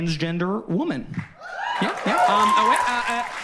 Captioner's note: audience cheers